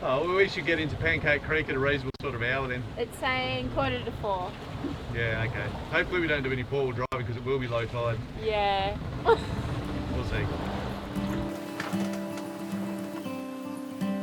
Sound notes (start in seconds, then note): 9.2 laughs; 11.4 upbeat music